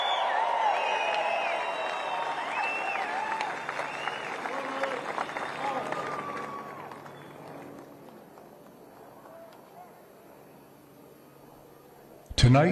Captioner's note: cheers and applause